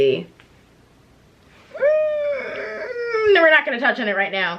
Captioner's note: inconsequential whining